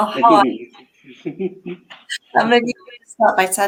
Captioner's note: laughs